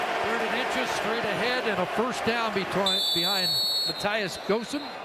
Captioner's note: cheering and Applause